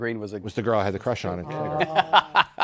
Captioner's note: laughs